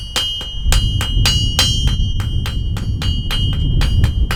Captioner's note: hammer banging on metal anvil